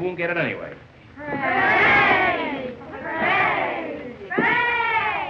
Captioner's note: bellhops cheering merrily